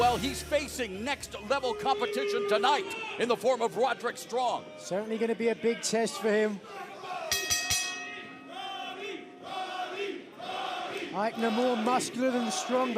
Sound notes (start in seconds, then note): 7.3 bell ringing; 10.6 crowd cheering